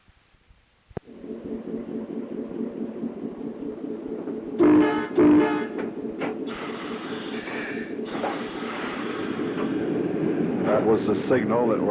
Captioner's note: sound of train moving & whistling